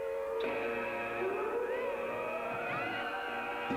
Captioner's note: siren